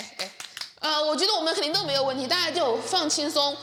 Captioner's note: coughs